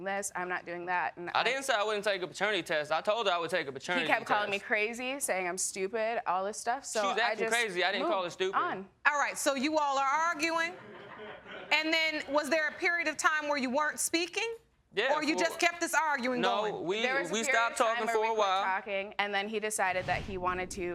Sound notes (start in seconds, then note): 8.5 audience laughing